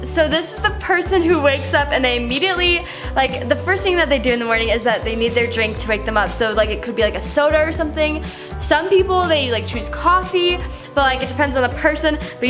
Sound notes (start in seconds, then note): none